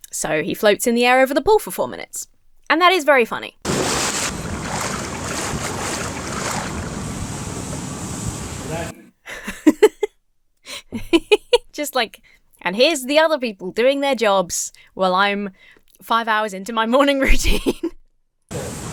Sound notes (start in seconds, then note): 3.6 water sloshing; 3.6 water splashes; 7.0 waxing machine hums; 9.3 laughs; 17.4 laughs